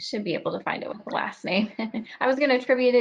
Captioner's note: laughs